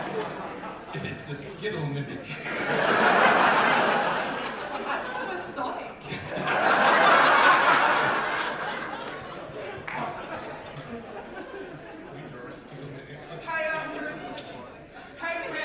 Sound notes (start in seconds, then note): 2.3 audience laughter; 6.0 bigger audience laughter